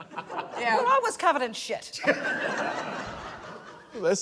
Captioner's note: laughter